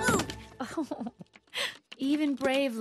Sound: giggles

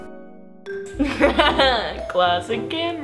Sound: laughing

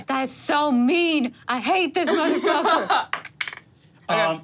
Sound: laughs

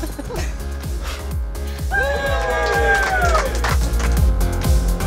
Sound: all Cheering

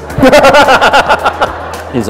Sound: laughter

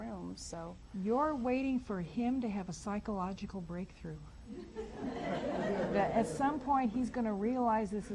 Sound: audience laughs

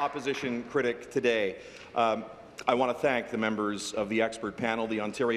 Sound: applause

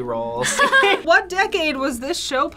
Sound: both laugh

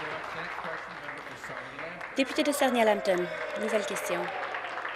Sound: applause

